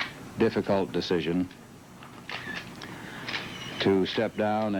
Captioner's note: camera shutter clicking